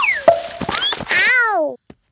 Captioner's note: thud